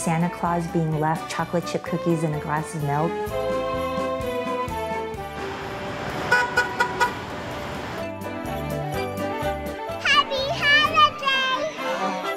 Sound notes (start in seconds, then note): 5.3 horn honks